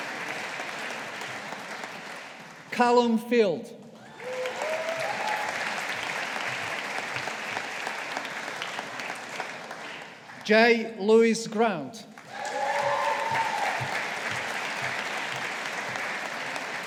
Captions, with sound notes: Callum Field. (AUDIENCE APPLAUDING) Jay Lewis Grant. (AUDIENCE APPLAUDING)